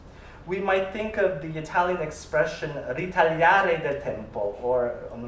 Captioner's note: italian